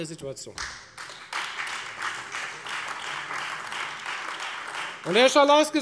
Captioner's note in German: Beifall